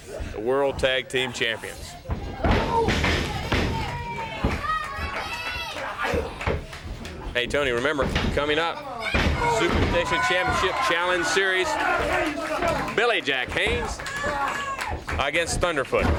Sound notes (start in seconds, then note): 3.2 crowd cheering